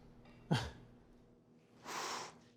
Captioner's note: laughs; exhales